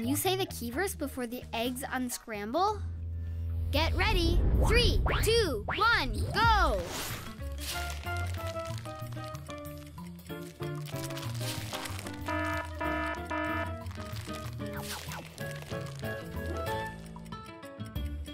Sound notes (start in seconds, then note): 8.4 game music; 12.3 timer buzzing; 15.6 game music